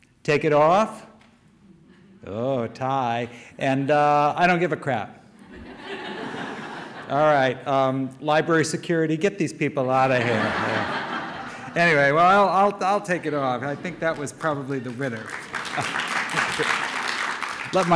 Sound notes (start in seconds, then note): 5.4 audience laughter; 10.0 audience laughter; 14.0 scattered audience applause